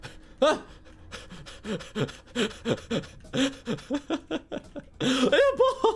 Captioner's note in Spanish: respirando emocionado